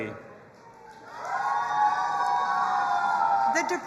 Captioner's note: audience applauding and cheering